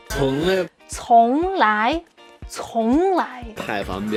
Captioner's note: speaking in Mandarin